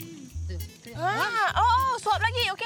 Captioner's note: foreign language